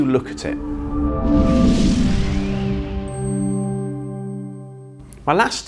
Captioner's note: gentle music; graphics whooshing